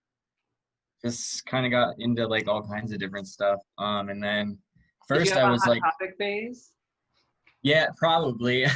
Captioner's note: laughter